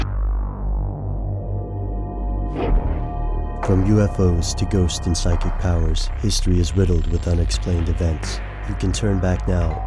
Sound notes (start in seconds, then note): 0.1 ominous music; 3.6 voiceover